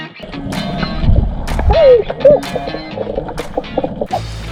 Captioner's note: underwater noises